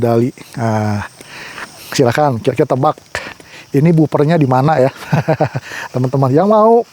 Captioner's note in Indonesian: tertawa